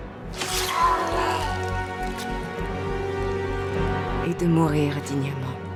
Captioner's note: swords squelching; Antony groans